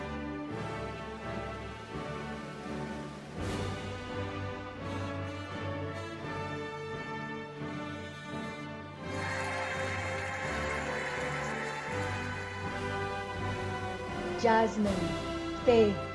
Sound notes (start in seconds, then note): 0.5 cheerful music; 9.0 cheering and applauding